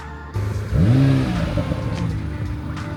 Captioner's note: engine revving